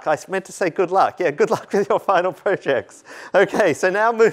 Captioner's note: laughter